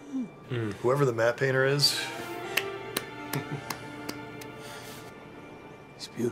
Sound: clapping

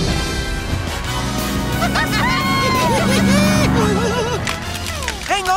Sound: all cheering

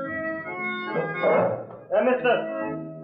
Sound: chair creaks

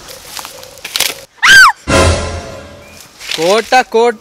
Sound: A sound of a branch breaking; screams

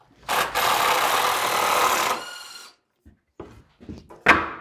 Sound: driver whirring

